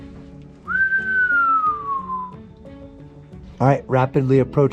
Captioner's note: whistles